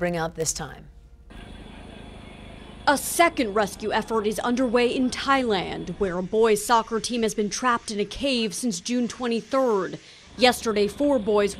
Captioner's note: sound of ambulance leaving cave entrance